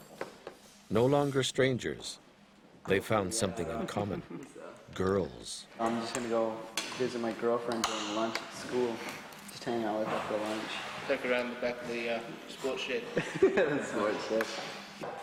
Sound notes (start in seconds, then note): 5.7 voiceover; 13.1 laughs; 13.8 voiceover